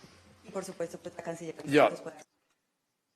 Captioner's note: in Spanish